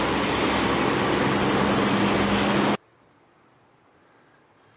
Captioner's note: city noise